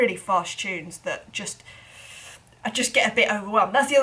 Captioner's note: inhales